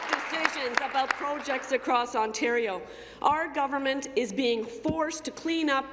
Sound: applause

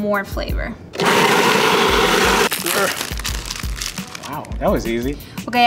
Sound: food processor whirring

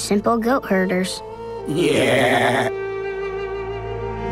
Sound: baaing

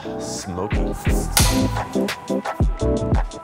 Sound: clapboard clacking; upbeat music

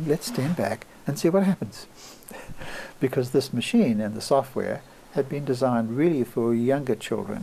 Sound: laughs

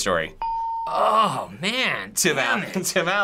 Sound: hitting bell; ding

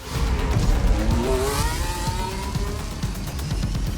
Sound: engine roars

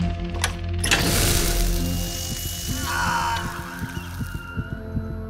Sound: machine whirring

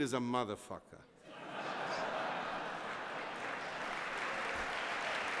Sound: laughter

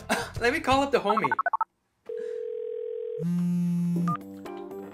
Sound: phone dialing

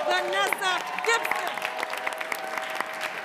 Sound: applause

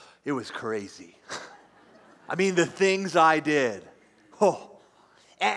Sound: laughs

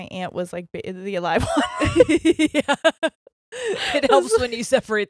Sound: both laugh

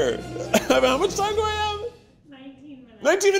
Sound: laughing

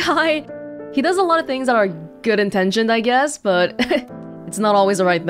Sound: chuckles

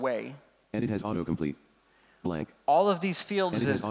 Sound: computer Voice

